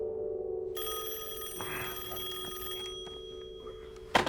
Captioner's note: phone rings